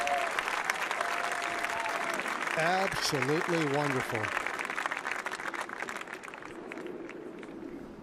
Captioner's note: applause